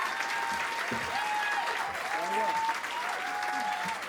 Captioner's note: applause and cheering continue